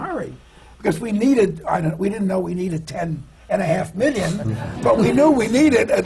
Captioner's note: laughter